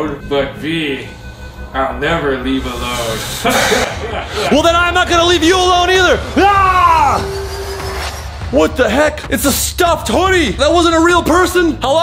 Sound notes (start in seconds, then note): 3.4 Mysterious Man laughs; 6.3 yells; 7.2 dramatic music